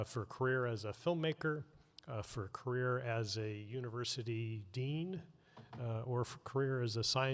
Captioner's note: none